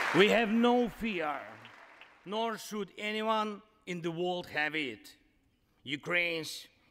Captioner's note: applause